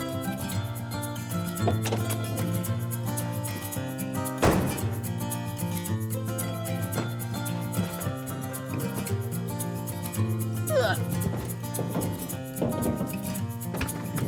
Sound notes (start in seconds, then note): 10.6 grunting